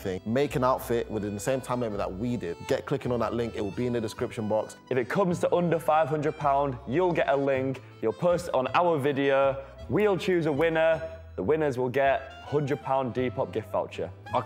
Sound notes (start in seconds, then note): none